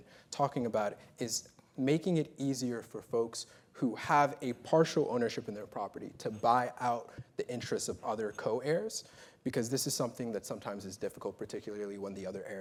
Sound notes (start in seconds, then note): none